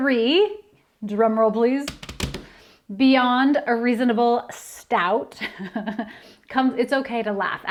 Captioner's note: sound of fingers drumming on desk; laughter